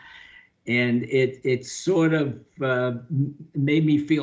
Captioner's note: laughing